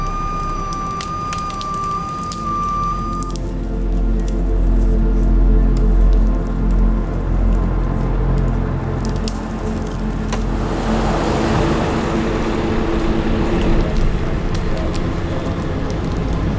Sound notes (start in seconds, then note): 4.0 slow dramatic music; 11.2 truck humming